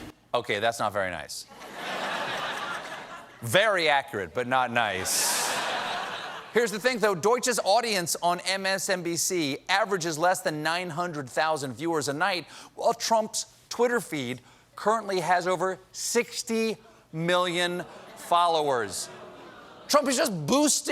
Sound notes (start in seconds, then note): 1.5 laughter; 5.0 laughter